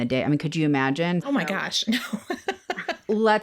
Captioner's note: laughs